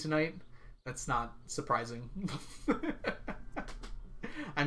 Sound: laughs

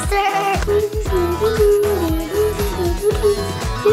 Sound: humming

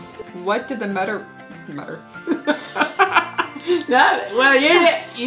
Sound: laughing

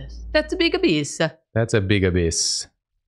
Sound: Italian accent

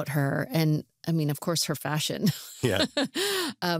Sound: laughs

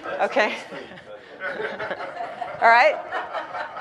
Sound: audience laughs

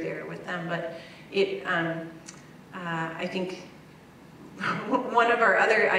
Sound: laugh

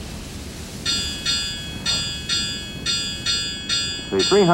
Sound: ringing

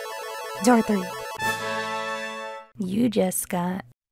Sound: prize jingle

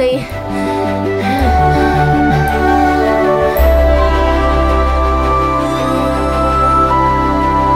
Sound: panting

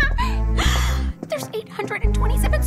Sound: gasps

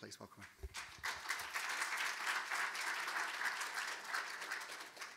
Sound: audience applauding

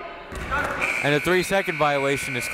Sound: buzzer

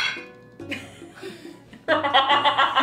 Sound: laughter

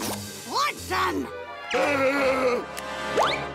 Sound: gasping

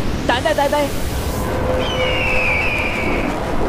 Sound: bird calling

